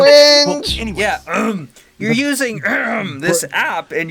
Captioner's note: with comedic throat clearing